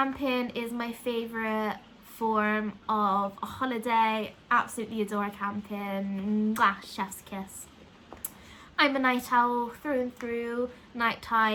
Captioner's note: mwah